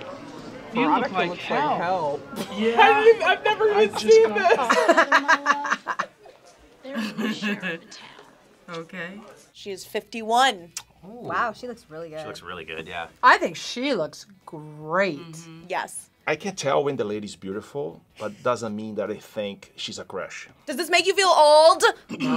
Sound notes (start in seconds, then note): 2.3 laughs